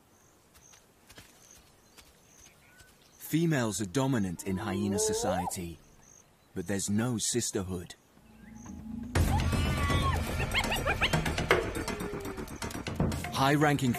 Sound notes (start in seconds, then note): 7.5 hyenas squeak